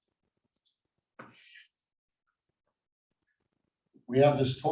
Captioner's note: chalk scrapes softly